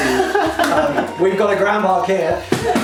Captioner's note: laughs